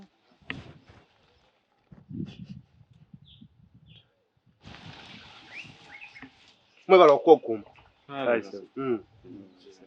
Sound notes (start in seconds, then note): 5.1 birds whistling